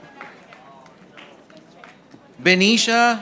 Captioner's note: audience applauding